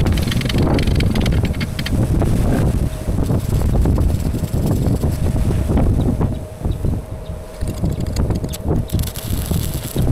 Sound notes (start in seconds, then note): 0.0 wind blowing